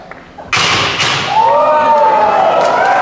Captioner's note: crowd cheering; metal ball thudding; crowd cheering